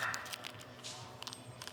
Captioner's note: laughs